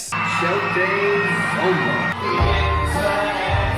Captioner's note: crowd cheering